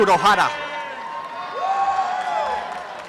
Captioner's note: applause and cheering